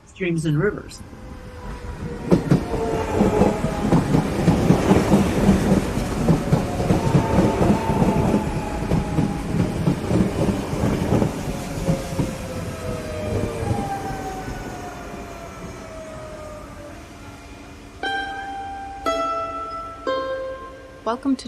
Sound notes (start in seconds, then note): 1.9 sound of electric train pulling into station; 18.0 chimes arpeggio played on mandolin